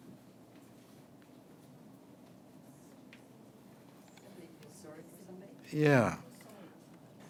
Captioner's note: pause – audience chatter